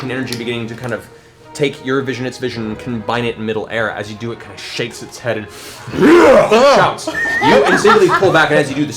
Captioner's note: roars